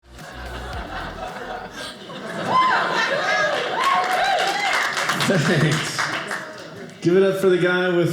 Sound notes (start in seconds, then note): 0.2 audience cheering